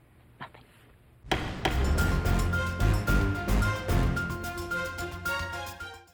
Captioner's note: gavel banging; dynamic music